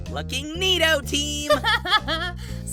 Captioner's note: clover laughs